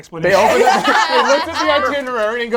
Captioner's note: all laugh